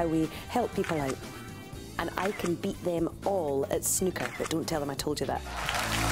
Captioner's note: audience applause